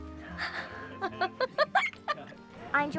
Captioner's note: laughing